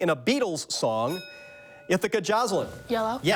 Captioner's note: bell dings